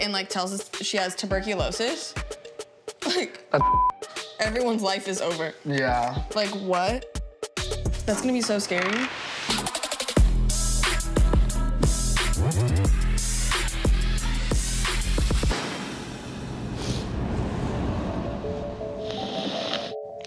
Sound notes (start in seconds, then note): 3.6 beeps; 9.3 upbeat music; 16.5 sniffling